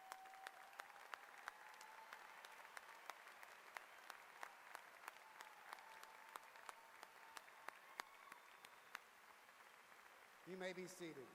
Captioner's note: applause